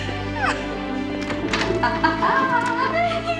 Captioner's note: laughing